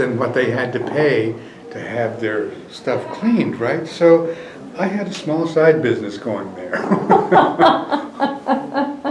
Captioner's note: laughter